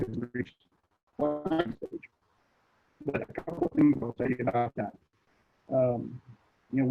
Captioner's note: connectivity hitch drowns other sounds